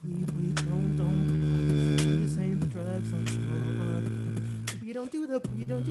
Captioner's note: beatboxing